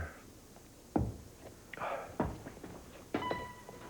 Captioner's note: sighs